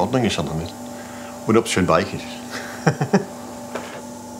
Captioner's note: he laughs